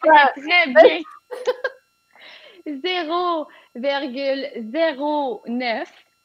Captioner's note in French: rires